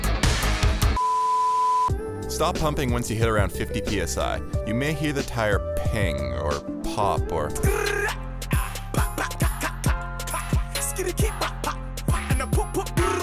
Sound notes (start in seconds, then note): 1.0 beep; 8.4 beatboxing